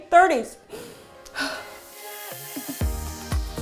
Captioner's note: deep inhale